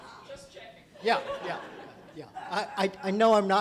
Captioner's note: voiceover